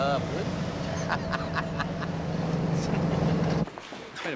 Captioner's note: laughs